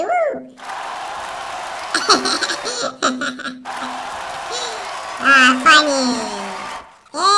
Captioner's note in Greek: Χειροκρότημα